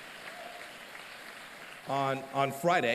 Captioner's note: applause